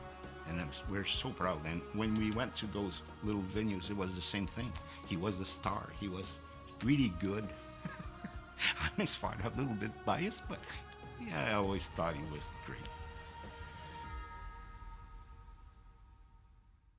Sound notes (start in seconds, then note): 7.5 laugh